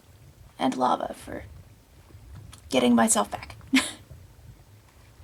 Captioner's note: laughs